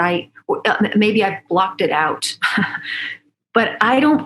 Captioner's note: laughs